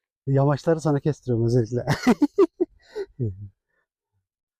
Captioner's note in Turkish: kahkaha